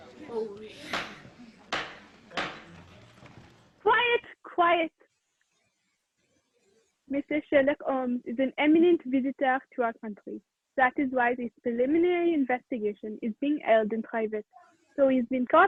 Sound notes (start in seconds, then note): 0.2 raps of gavel; 7.3 French accent